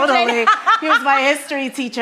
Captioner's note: laughing